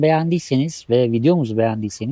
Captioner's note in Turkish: none